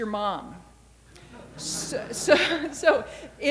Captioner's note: audience laughs